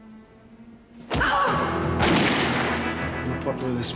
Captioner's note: cries out